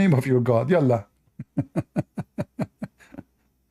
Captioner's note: Ketawa